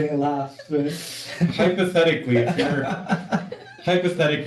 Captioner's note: laughter